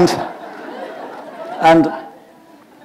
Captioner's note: laughter